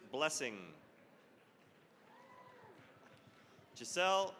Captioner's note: cheering, applause